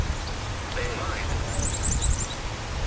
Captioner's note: Ovilus speaking